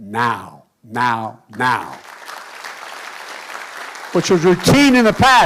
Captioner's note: applause